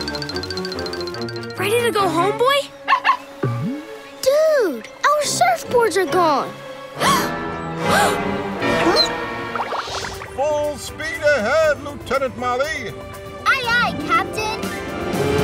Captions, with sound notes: Ready to go home, boy? Dude, our surfboards are gone! [collective gasps] Full speed ahead Lieutenant Molly! Aye aye captain!